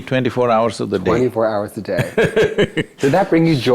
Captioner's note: Sadhguru Laughs